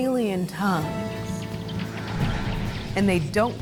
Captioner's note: squeaking noises